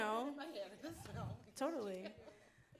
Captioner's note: faint chattering